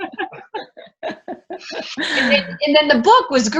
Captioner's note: laughing